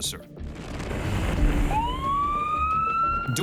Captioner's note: police siren